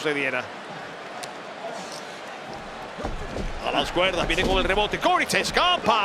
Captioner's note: applause